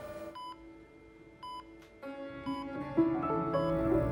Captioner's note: machine beeping